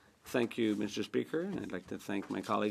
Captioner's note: speaking French